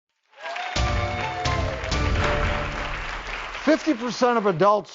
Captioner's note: audience clapping; upbeat music